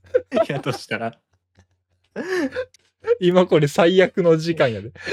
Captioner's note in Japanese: 笑い; 息をのむ音